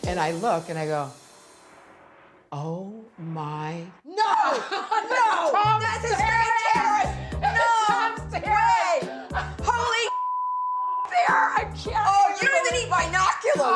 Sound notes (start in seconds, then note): 5.6 women yelling; 10.0 beep